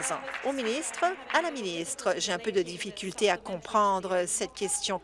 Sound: applause

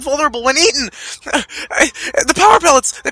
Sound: stammers

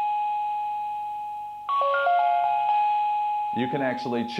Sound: chime

